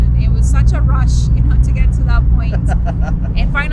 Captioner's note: laughs